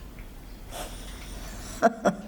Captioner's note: chuckling